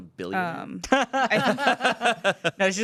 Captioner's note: everyone laughs